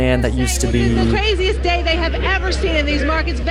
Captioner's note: soundbite of archived recording